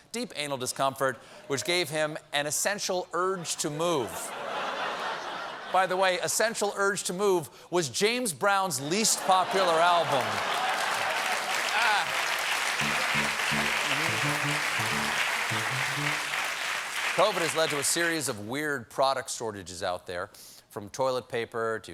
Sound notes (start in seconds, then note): 8.1 applause; 9.0 laughter